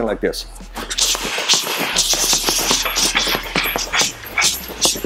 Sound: punching noise

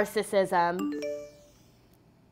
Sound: phone chimes

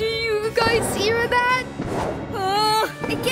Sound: whimpering

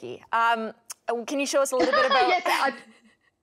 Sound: laughing

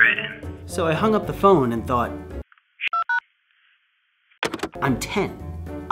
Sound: phone dial beeps

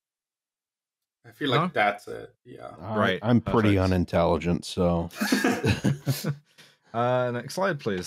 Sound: laughter

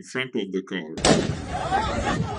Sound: gun shot

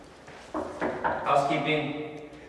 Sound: knocks on door

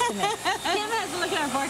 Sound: laughing

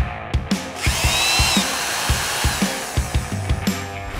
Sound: saw revving

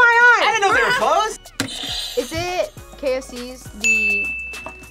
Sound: buzzer rings

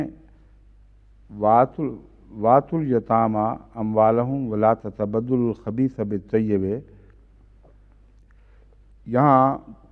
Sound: Arabic

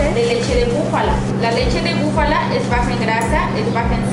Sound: speaking in Mexican

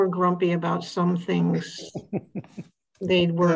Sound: laughing

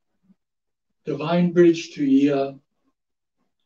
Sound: speaks in Japanese

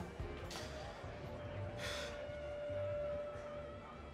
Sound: sighing

